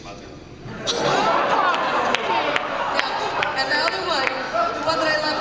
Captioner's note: laughter and applause